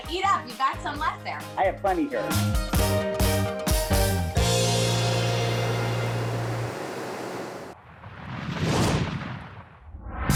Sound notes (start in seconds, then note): 2.5 upbeat music; 6.6 logo whooshing